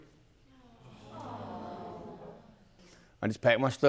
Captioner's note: audience murmurs